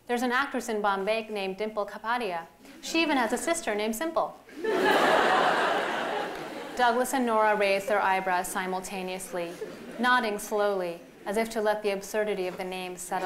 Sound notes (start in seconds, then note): 4.5 laughter